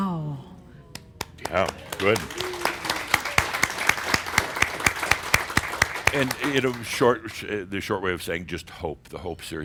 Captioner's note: audience applause